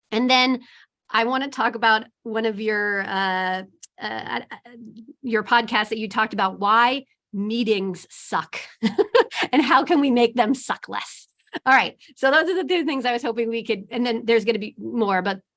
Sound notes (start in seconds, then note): 8.8 laughs